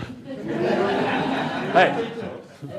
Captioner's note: laughter